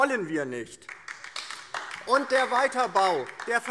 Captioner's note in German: Beifall DIE LINKE